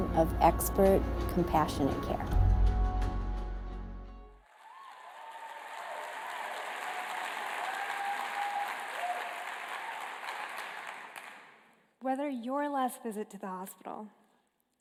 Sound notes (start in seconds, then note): 4.4 applause